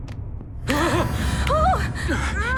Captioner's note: Jonathon gasps; Lienda gasps